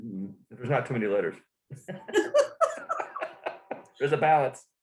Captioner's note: laughter